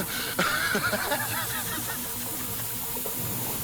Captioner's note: Fillus laughing